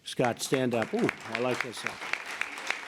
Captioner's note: applause